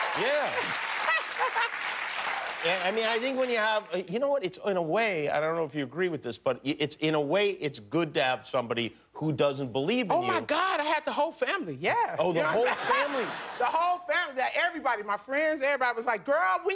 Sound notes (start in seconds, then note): 5.4 cheers and applause